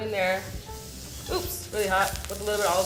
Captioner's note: pan sizzling